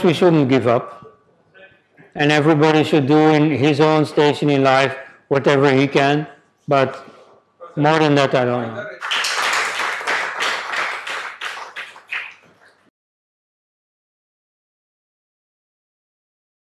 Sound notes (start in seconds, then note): 9.0 applause